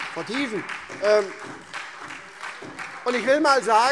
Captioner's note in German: Beifall SPD